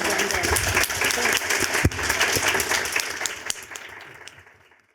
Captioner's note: applause